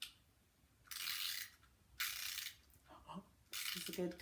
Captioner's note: winding noise